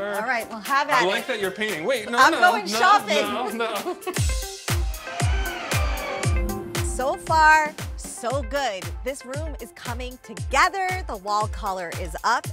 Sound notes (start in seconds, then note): 2.5 laughing; 4.7 power tools running